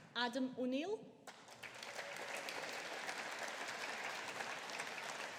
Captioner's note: audience applauding